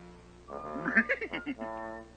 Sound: scooby laughs

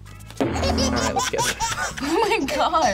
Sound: baby laughs

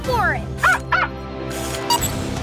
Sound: barking

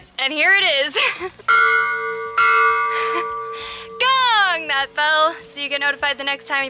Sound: laughter

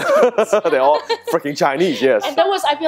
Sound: laughing

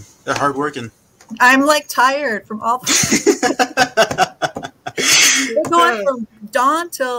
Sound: both laughing

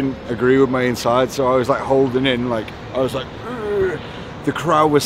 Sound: groans

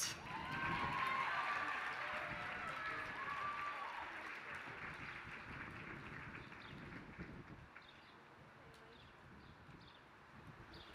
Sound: applause

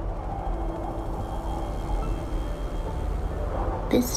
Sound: helicopter buzz. Wind

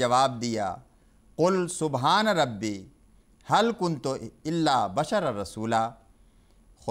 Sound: Arabic

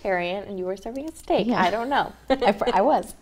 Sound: laughs

